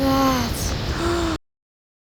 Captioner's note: gasp